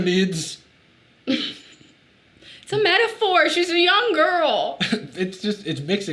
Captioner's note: chuckles